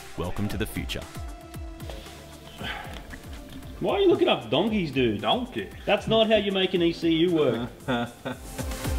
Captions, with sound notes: "Welcome to the future." -Why are you looking up donkeys, dude? -Donkey! -That's not how you make an ECU work! -[chuckles nervously]